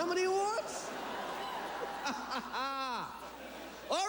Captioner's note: chuckling